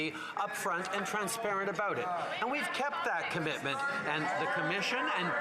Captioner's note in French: voix de l'interprète